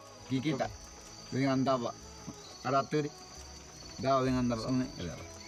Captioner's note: speaking in foreign language